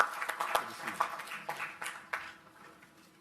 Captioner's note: applause